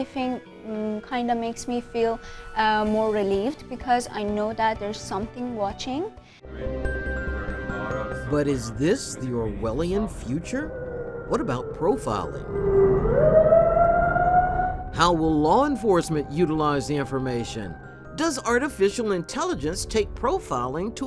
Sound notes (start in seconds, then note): 6.3 ominous music; 12.7 sirens wailing